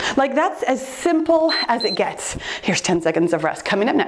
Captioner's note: timer beeps